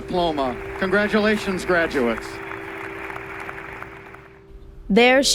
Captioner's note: applause